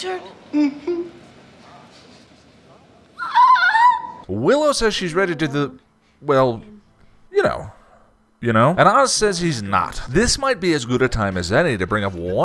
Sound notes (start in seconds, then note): 3.2 screech